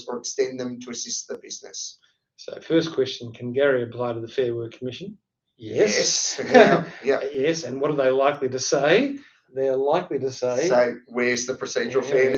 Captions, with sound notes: or extend them to assist the business." - So first question, can Gary apply to the Fair Work Commission? (both speak in unison) - Yes. - Yes. And what are they likely to say? They're likely to say- - So where's the procedural?